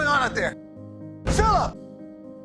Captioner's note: voiceover; shouting